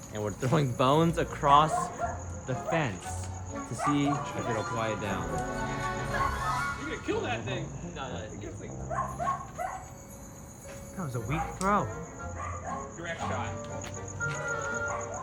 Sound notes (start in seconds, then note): 8.8 dog barking; 15.0 goofy music